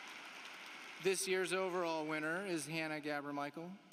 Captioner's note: applause